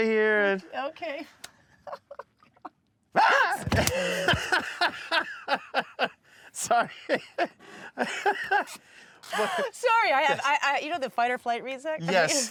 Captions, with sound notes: -Touch right here and... -Okay. [ Chuckles ] -Aah! -[ Gasps ] -[ Laughs ] Sorry. -Sorry. I have -- You know the fight-or-flight reseck?